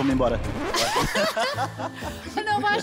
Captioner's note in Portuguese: risos